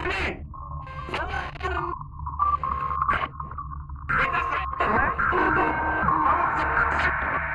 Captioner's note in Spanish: Voces distorsionadas